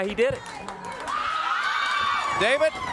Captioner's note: crowd cheering